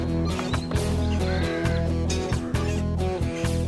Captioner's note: tap! Tap!